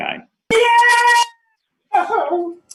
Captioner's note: cheers